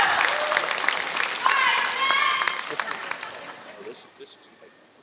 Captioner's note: applause